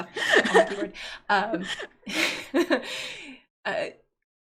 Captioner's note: both laughing